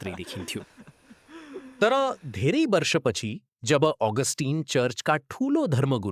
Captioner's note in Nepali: हास्य